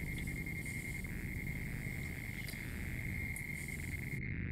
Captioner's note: electronic noise in the background